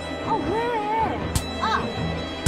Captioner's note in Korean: 때리는 소리